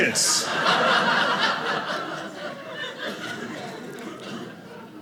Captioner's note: audience laughing